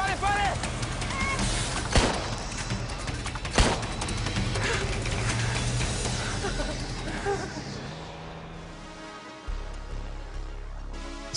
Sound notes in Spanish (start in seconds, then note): 3.4 Disparos